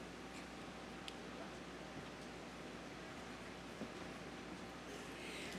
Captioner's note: none